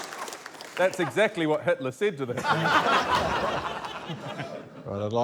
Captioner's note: laughter